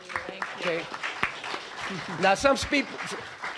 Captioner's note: applause